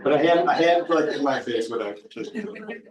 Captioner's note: people chuckling